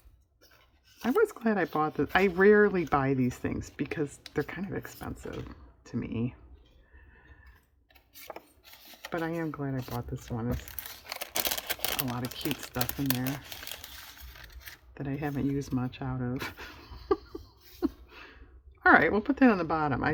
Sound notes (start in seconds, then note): 16.6 laughs